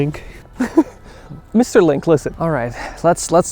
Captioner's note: laughs